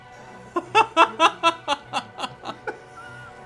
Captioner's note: laughs